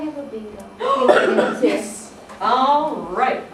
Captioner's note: sigh